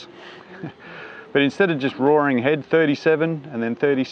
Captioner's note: chuckling